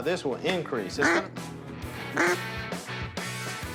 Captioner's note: duck quaking